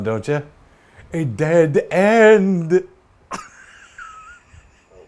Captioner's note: laughs